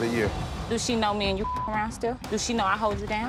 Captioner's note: beep